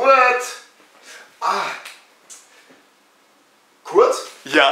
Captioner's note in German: headclap